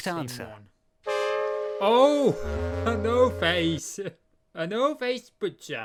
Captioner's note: o face sound effect